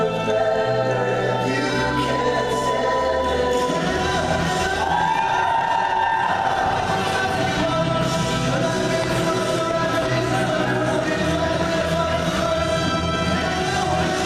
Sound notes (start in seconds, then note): none